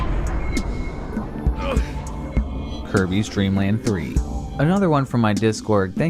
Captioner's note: explosion; groaning